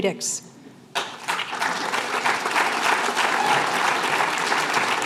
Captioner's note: applause